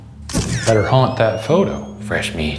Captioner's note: camera shutter clicks